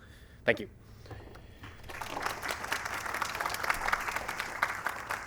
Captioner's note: applause